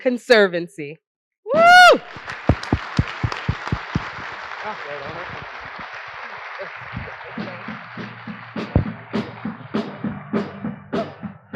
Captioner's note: applause